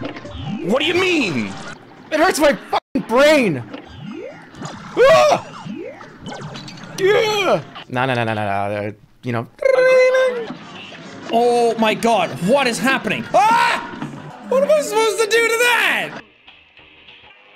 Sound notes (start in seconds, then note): 6.8 Jerma noise #2; 13.3 screams